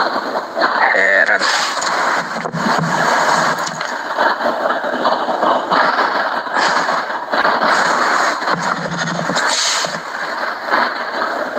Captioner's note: laughs